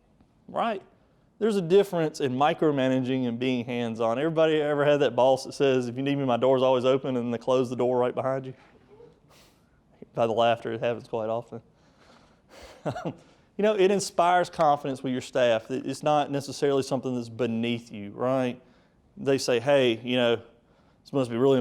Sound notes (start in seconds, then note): 8.7 quiet laughs; 12.8 speaker laughing